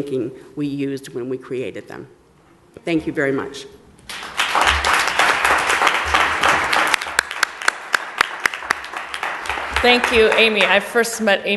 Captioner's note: applause